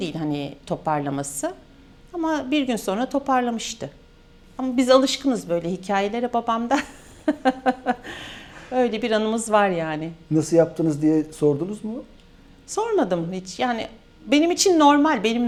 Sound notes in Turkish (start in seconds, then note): 6.7 kahkaha